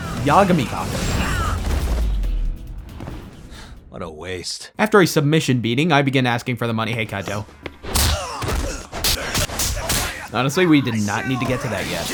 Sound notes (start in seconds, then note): 3.5 sigh